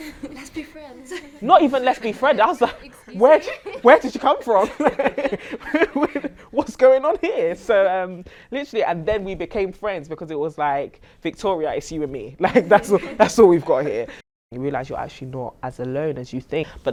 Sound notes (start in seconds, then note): 5.0 laugh